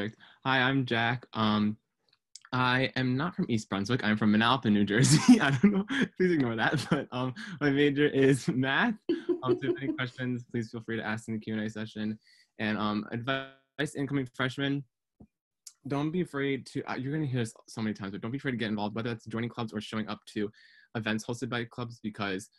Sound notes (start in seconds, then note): 5.0 laughs